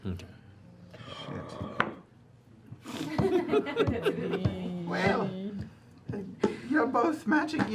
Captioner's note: laughter